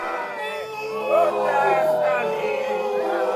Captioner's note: crowd booing